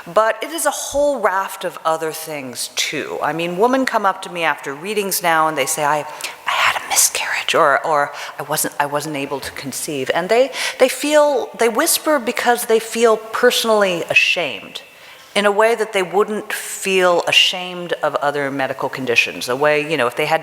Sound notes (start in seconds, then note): 6.1 whispers